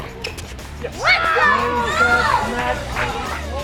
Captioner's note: cheers